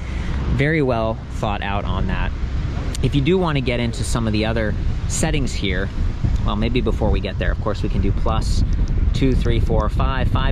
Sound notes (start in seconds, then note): none